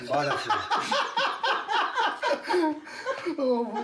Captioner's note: laughs